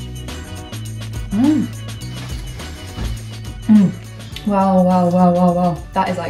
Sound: soft upbeat music; exclaiming

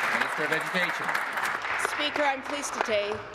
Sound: applause

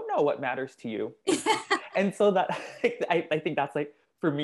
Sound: laugh

